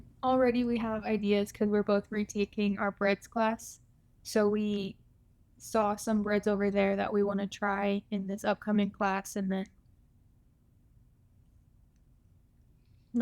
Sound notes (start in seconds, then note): none